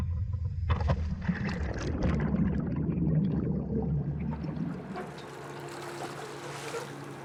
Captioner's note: underwater bubbling; small engine humming